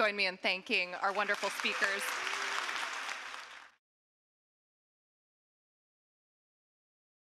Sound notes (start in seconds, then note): 1.0 audience applauding